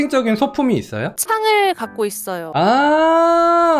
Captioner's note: voiceover